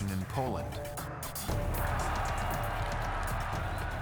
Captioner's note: cheering